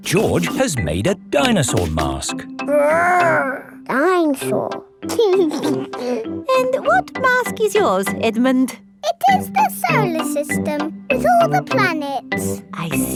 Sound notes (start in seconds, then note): 0.0 both laughing; 5.1 giggles